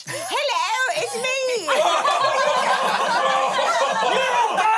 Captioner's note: everyone laughs